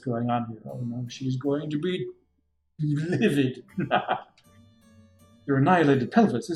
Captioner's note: laughs